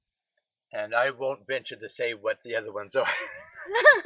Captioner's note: laughing